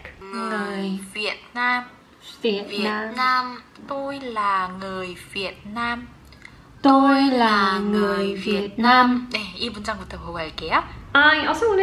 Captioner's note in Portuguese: ouvindo e falando vietnamita